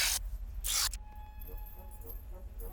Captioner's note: buzz